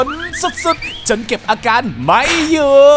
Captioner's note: panicking